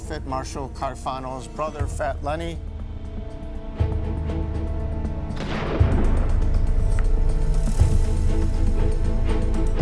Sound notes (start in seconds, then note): 5.4 gunshot; 7.0 suspenseful music swells